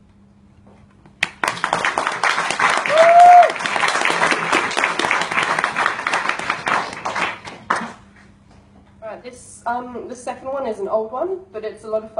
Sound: applause

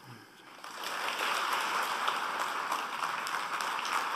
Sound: applause

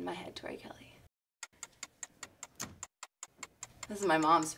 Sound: clock ticks

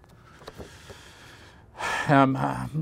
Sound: Jason sighs

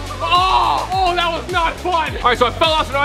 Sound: screams

